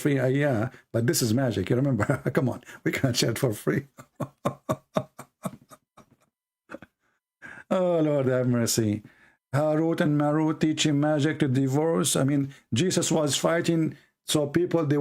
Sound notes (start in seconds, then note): 3.8 Ketawa